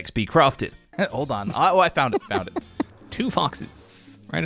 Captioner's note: chuckles